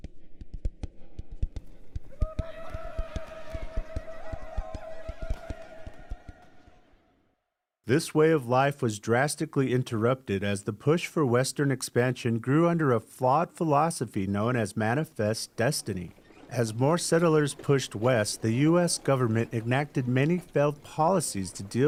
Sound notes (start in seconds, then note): 2.1 people uttering war cries; 2.3 tense percussive music